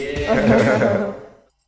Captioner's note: laughing